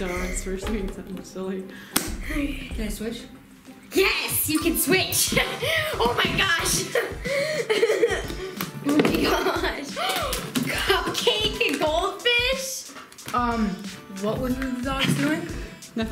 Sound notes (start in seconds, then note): 7.6 laughing; 10.0 gasping